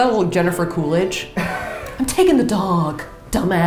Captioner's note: laughs